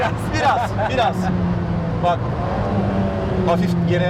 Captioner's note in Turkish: hafif gülüşmeler